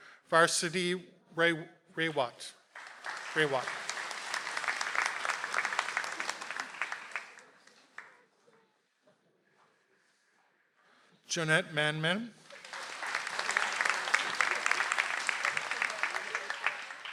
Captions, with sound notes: - Varsity, Ray Watt. (audience applauds) - Jeanette Manmen. (audience applauds)